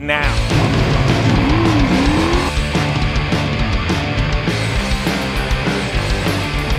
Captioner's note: intense rock music; engine revving